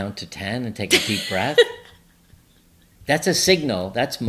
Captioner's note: laughs